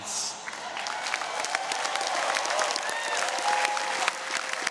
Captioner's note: audience cheering